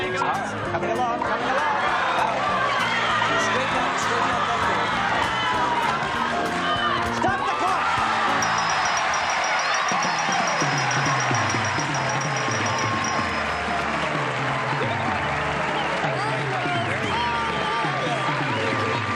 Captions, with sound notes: There you go. - It's hard. Coming along. Coming along. [cheering] - Stop the clock. [cheering] [applause]